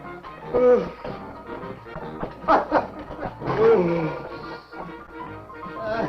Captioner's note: man yawning; men laughing